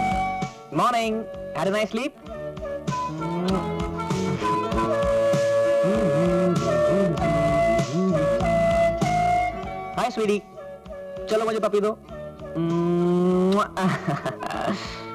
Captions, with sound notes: Morning. Had a nice sleep? (Humming) Hi, Sweetie. Give me a kiss. (Laughs)